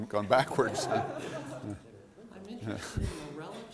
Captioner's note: laughter